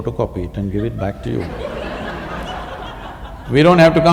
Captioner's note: laughter